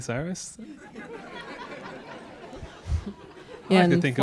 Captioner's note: audience laughs